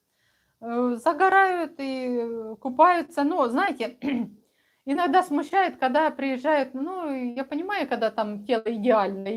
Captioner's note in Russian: откашливается